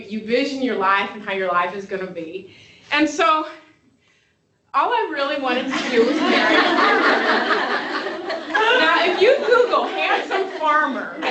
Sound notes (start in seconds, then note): 5.6 laughter